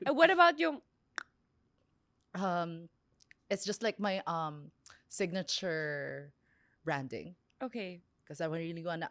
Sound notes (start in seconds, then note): 1.1 clicks tongue; 4.8 clicks tongue